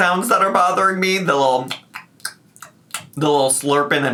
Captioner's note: imitates chewing